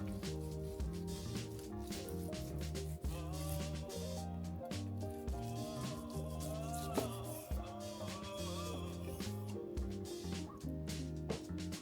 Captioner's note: metal scraping